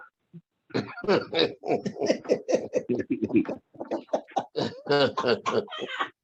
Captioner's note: laughing